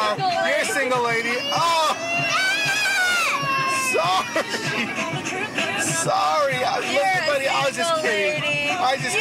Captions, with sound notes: - You're a single lady. - You're a single lady. [CRYING] - Oh! - Dad! - Sorry! Sorry. Look, buddy-- - You're a single lady. - --I was just kidding.